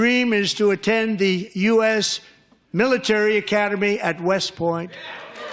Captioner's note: laughter